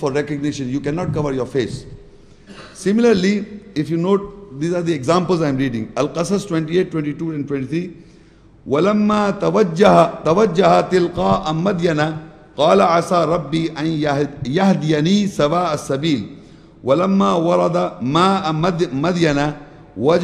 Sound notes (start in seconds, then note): 8.8 Arabic